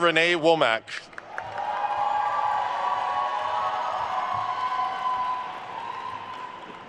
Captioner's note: attendees cheering and applauding